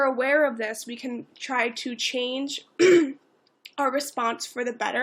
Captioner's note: clears throat